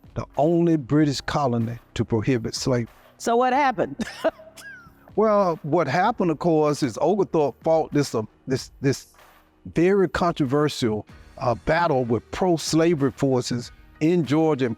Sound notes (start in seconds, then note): 4.0 laughs